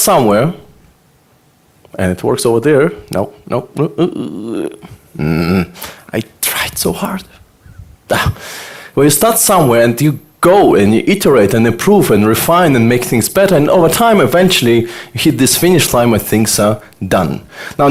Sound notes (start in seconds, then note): 8.1 gasps